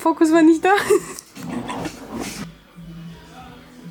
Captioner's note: laughing